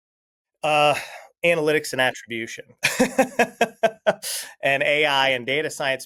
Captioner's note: laughs